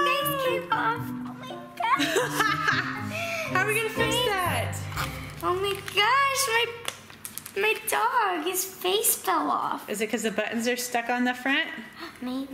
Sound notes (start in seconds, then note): 0.0 screams; 1.9 laughs